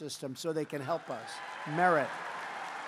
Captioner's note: applause